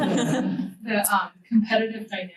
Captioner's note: students laugh